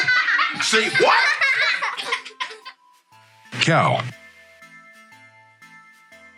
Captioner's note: children laughing